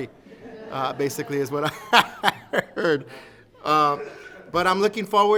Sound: laughs

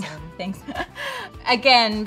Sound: chuckles

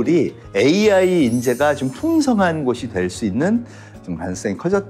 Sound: sparkling sound effect

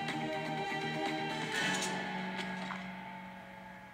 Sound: silence + Gun Cocking

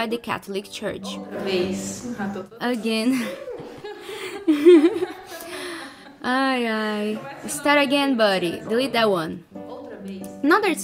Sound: laughs

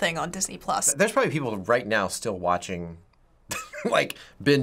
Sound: chuckles

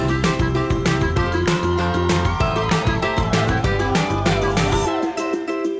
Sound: crowd cheering

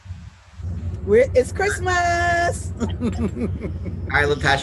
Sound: laughs

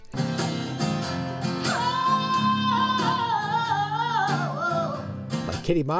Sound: guitar music; vocalizes

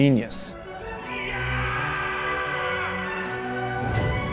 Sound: yelling

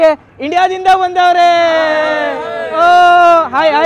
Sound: cheering

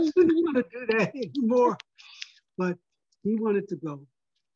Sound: laugh

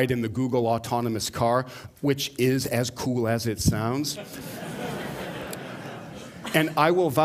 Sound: laughter

